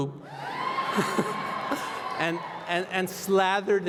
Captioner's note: laughter